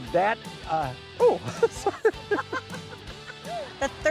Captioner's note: producer chuckles; chuckles